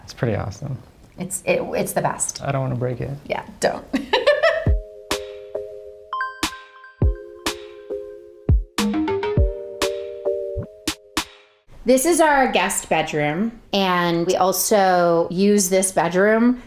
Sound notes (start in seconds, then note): 4.0 Bryce laughs; 4.4 light music